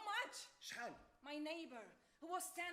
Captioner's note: man speaks Arabic